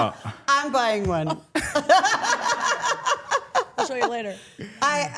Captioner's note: laughs